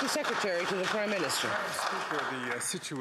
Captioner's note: some Applause